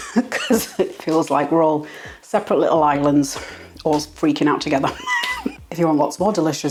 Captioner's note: laugh